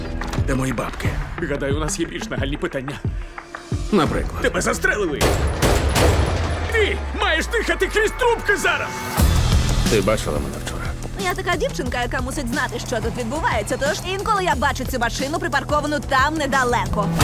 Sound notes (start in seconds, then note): 5.2 gunfire